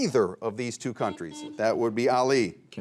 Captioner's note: buzzer rings